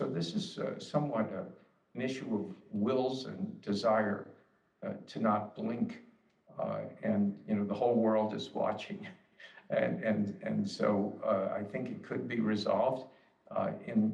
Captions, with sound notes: This is somewhat an issue of wills and desire to not blink, and the whole world is watching. [chuckles] I think it could be resolved.